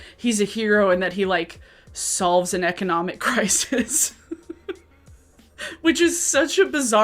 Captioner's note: laughs